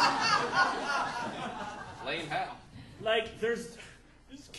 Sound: audience laughing

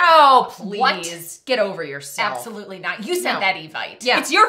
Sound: none

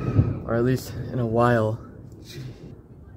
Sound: thunder quiets down

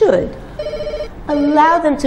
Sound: phone rings

